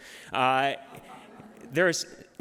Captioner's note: laughter